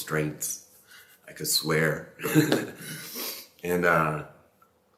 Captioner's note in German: lacht